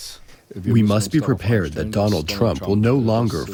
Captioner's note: through translator